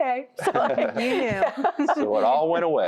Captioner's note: laughter